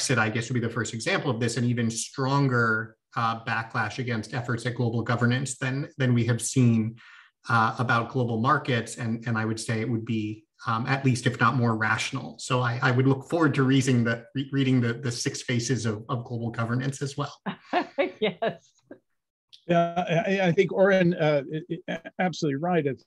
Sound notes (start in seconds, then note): 17.5 laughter